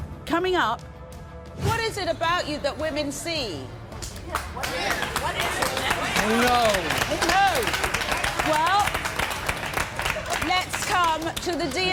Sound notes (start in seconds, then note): 4.3 applause